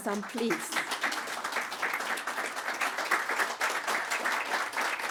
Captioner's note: audience applauding